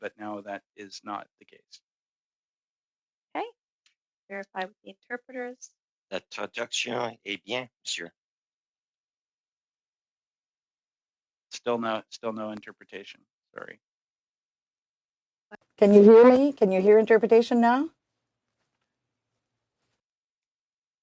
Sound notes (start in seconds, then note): 11.1 speaking French